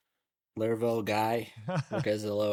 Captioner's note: laughs